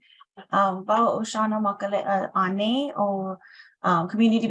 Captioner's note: speaking in foreign language